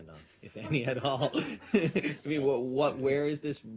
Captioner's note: laughter